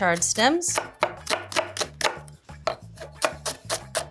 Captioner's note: knife clatters